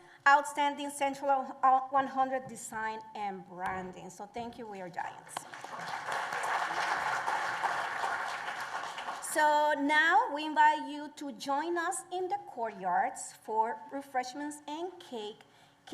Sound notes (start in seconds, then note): 5.4 applause